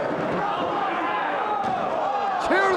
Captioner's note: spectators exclaiming